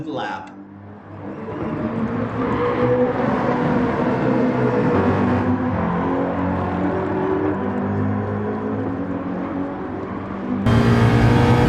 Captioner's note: engines revving, cars noises